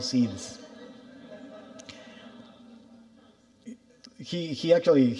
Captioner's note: audience laughing